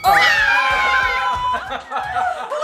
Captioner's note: family yells